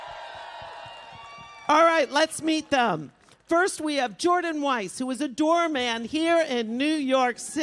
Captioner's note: applause